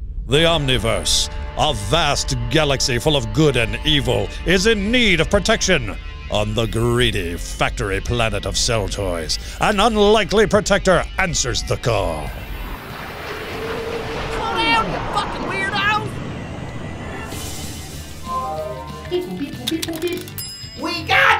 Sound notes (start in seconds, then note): 12.6 robot suits swooshing; 20.6 bell dings